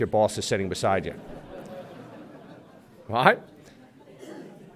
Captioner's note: laughter